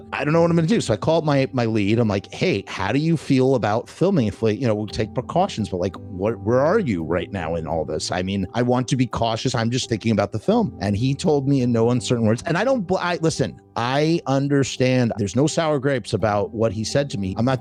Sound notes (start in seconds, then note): none